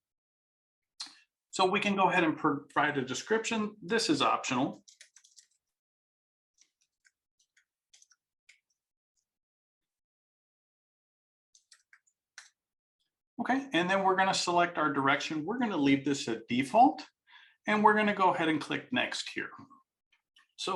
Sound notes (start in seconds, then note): 4.8 keyboard clanking